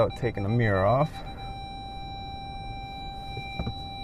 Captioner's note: beeping